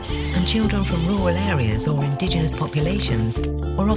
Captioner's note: sheep noises